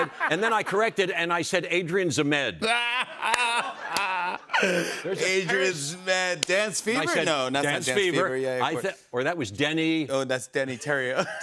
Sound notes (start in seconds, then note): 2.6 laughing